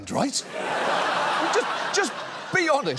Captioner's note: laughter